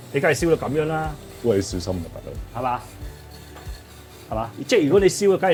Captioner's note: blowtorch